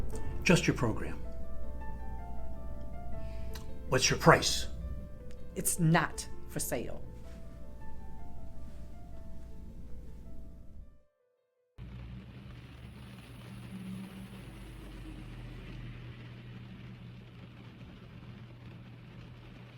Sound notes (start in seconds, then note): 11.8 rain pattering